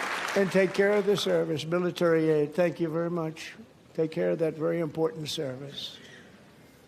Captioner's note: applause